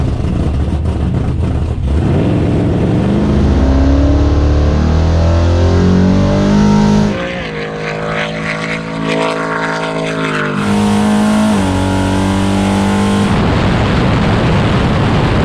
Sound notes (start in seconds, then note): 1.0 race car motor running